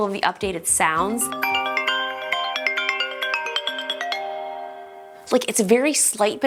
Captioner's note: whimsical chime phone alert